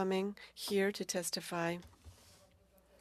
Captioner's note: speaking french